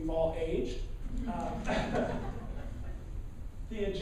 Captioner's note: laughing